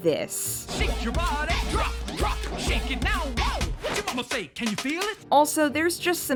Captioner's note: singing; jiggle sound effects